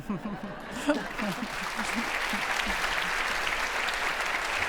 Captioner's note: audience applauding